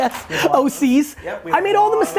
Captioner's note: laughs